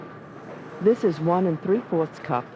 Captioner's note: voiceover